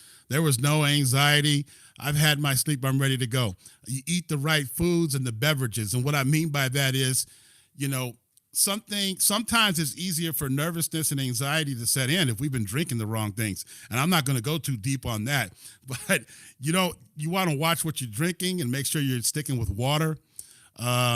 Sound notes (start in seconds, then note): 15.9 laughter